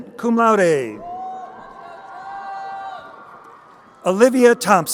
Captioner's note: crowd cheering